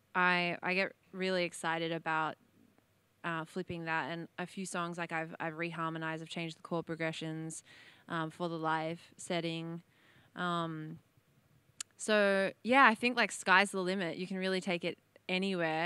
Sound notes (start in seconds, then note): none